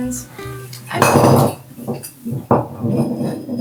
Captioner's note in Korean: 물병 쓰러지는 효과음